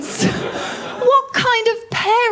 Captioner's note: laughter